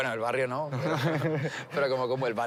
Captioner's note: laughter